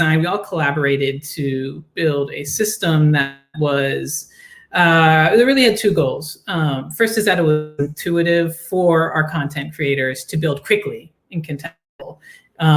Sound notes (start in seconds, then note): 7.4 voice distorting